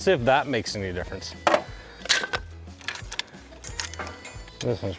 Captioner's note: chain ratcheting